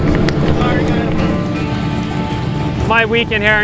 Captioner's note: engines rumbling